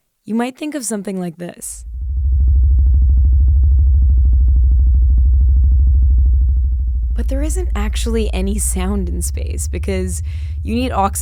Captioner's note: dark rumbling sound